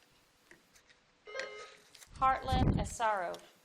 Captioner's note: buzzer dings